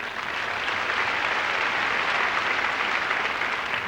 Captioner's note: applause